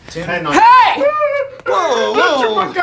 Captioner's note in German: IT-Leute winseln